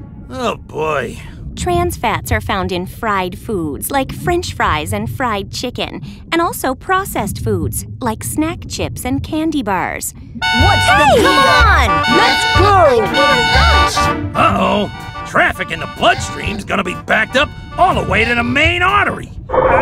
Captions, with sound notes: Oh, boy. Trans fats are found in fried foods, like French fries and fried chicken. And also processed foods like snack chips and candy bars. [car horns] - C’mon! - Let's go! Uh-oh. Traffic in the bloodstream is going to be backed up all the way to the main artery.